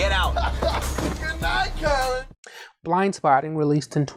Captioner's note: laughs